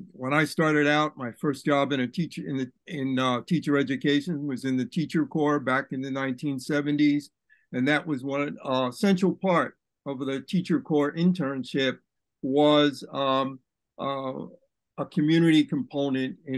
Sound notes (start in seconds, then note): none